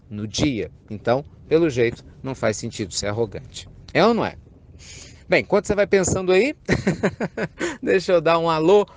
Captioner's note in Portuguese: risos